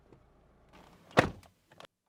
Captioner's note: door Thud